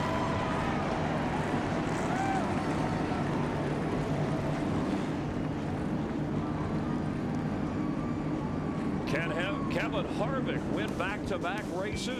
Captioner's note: engines roar